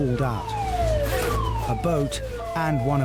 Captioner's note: sirens blaring; zip zipping